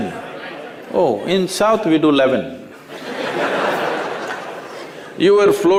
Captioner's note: laugher